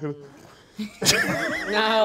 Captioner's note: everyone laughing